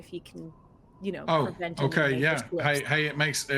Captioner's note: speaks faintly